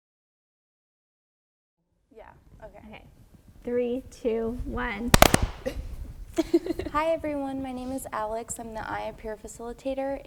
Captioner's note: clap